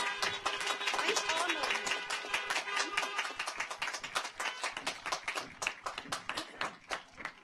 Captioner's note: car horns honking; audience applauds